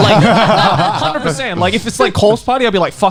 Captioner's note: laughing